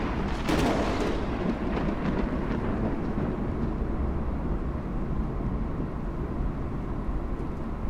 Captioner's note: rolling thunder